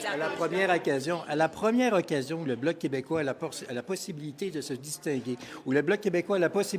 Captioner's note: French